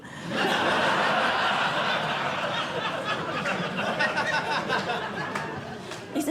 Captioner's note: laughter